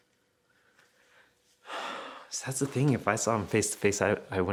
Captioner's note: sighing